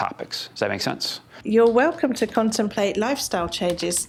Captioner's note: keyboard tapping